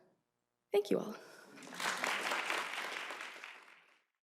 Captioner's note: applause